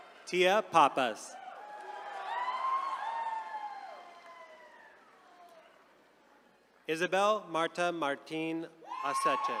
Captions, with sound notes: Tia Pappas. (attendees cheering) Isabel Martha Martin.